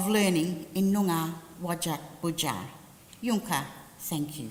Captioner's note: language spoken